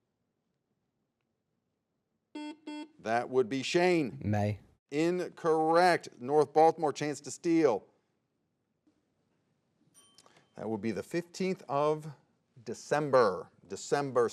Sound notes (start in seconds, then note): 2.3 buzzer beeps; 10.2 timer dings